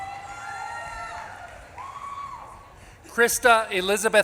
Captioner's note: audience claps and cheers